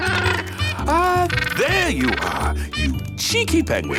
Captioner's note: giggles; honking